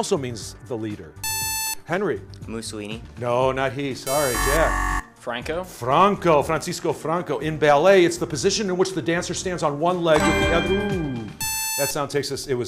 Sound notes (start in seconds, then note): 4.0 buzzer